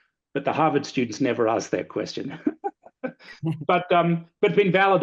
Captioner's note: laughs